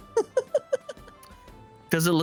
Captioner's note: laughter